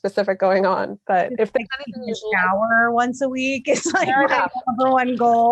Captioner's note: laughing